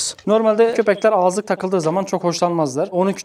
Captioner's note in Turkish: none